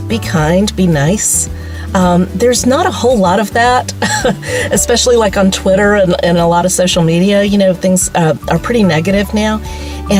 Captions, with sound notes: be kind be nice. There's not a whole lot of that. (laughs) Especially like on twitter and a lot of social media you know. Things are pretty negative now.